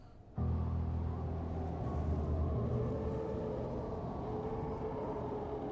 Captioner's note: wind howling